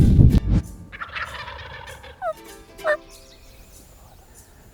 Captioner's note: turkey gobbles